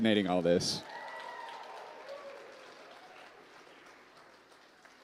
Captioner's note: applause